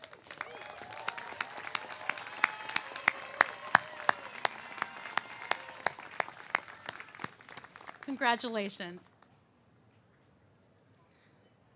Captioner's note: cheers and applause